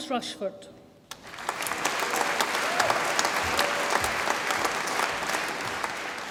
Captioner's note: audience applauds and cheers